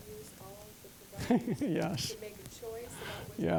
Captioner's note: giggling